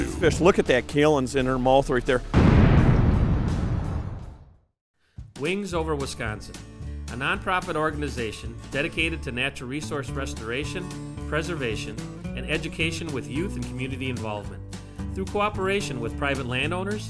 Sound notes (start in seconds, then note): 2.3 bang; 5.5 voiceover